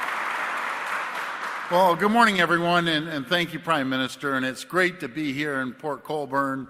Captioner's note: applause